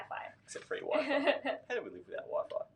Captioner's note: laughs